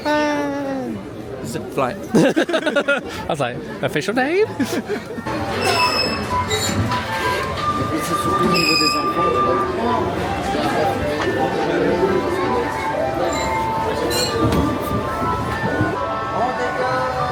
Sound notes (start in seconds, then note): 2.1 laughing; 6.3 bright music; 6.3 guests chatting in French; 16.8 bright music; 16.8 guests chatting in French